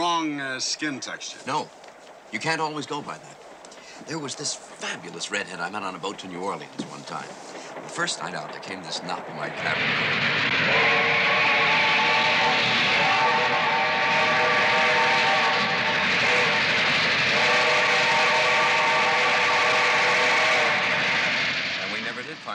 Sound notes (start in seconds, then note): 12.7 train whistle blows